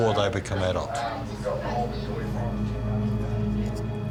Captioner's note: indistinct background chatter